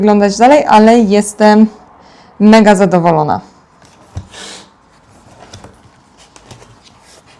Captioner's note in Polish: parsknięcie